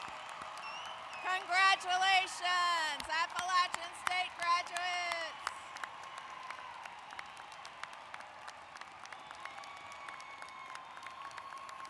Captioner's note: applause